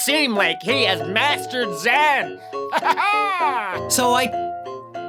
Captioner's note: pirate laugh?